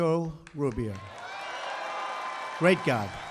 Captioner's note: applause